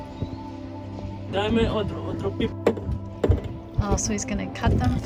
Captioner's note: visitor speaking in foreign language